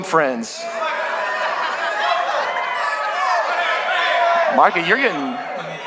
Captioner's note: congregation shouting